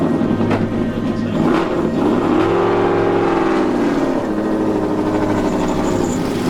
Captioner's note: engine starts